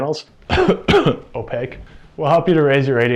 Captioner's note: fake cough